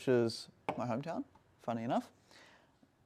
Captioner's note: glass taps